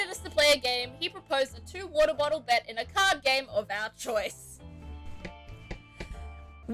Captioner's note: smacks desk